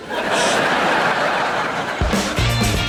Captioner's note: audience laughing; funky music